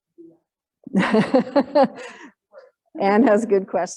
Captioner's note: laughs